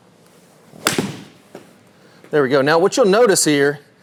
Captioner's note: club thwacks